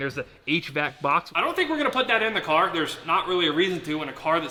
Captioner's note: hvac